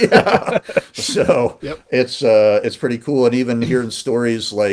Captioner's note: laughing